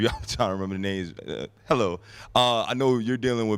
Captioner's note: laughs